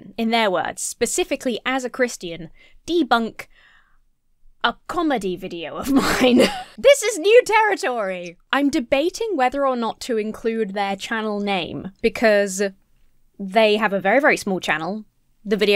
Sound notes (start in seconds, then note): 5.8 laughs